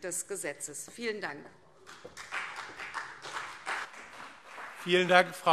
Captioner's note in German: Beifall CDU und BÜNDNIS 90/DIE GRÜNEN